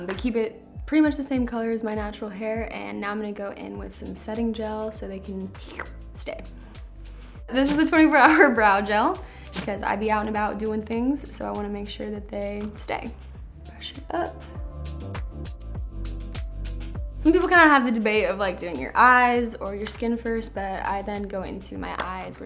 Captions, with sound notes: but I keep it pretty much the same color as my natural hair and now I'm gonna go in with some setting gel so they can [slurps] stay. This is the 24-Hour Brow Gel, because I be out and about doing things, so I want to make sure that they stay. Brush it up. Some people kind of have the debate of like doing your eyes or your skin first, but I then go into my eyes,